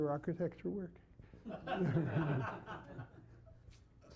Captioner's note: laughter